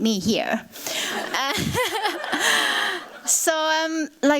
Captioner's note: laughter